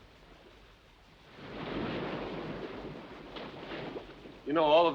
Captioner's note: waves crashing